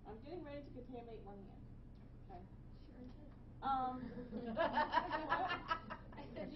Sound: laughing

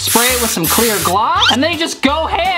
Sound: spray can hisses

